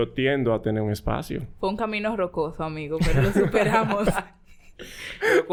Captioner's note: laughs